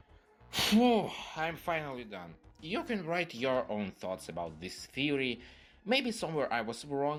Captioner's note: tired breath